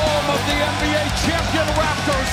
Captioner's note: crowd cheering